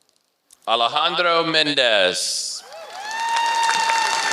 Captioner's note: applause